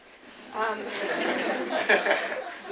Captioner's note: laughter